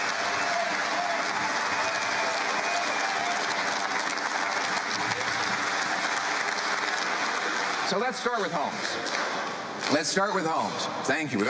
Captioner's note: cheering